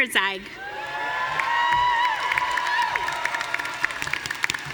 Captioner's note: audience cheering